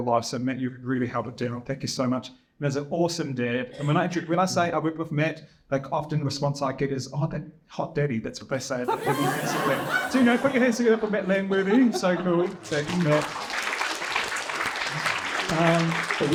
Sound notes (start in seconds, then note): 8.8 laughter; 14.8 applause